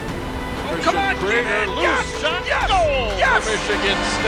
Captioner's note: commentator cheering